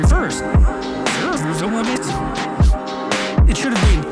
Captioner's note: Jordan speaking backwards